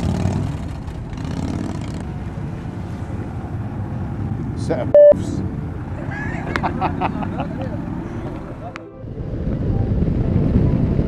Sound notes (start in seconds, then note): 6.0 laughing